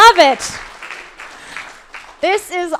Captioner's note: crowd applauding